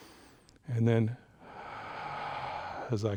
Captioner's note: breaths in; breaths out